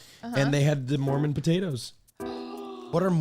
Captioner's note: gasps